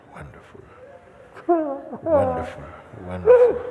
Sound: cries

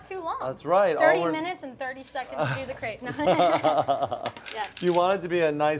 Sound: laughter

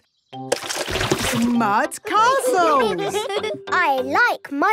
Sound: all giggling

